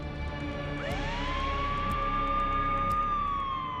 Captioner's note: emergency siren